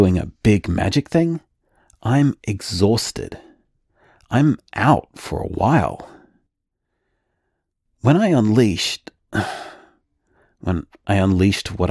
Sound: sigh

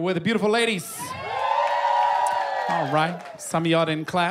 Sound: cheers and applause

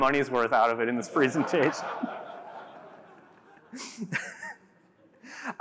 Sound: laughter

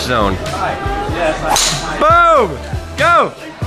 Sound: clack

